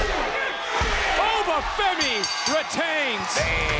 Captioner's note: bell ringing